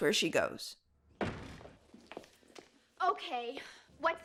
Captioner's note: door slams open, Buffy's footsteps clack